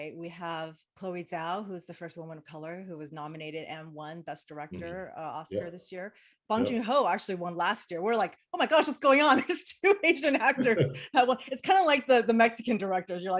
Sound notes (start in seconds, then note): 10.6 chuckle